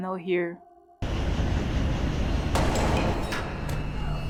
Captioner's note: shot